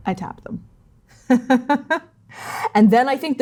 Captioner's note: chuckling